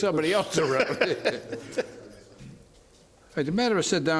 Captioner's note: laughter